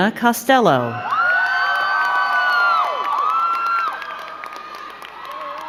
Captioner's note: crowd cheering and clapping